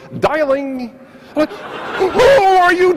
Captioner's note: audience laughs